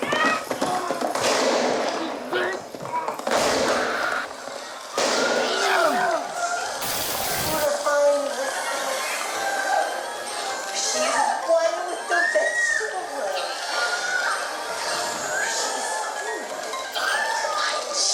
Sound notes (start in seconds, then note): 0.0 woman screams; 3.2 gun fires; 3.8 screams of terror; 10.4 TV rattles in background